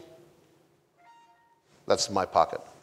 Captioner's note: cell phones buzzes